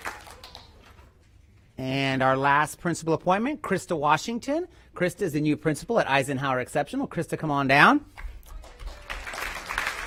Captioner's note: applause